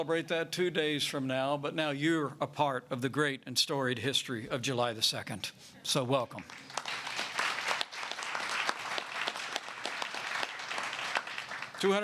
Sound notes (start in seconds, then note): 6.4 applause